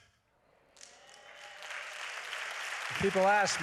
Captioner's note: applause